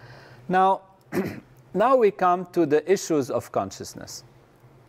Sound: cough

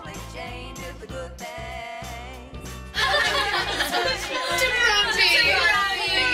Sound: laughs

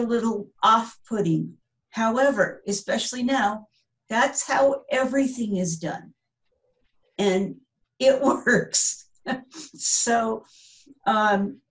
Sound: laughter

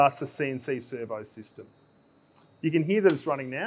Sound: machine whirring

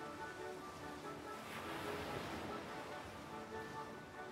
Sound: water splashes

